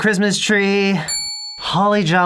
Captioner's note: ding